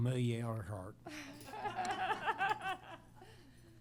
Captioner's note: laughter